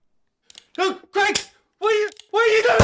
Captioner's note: click; click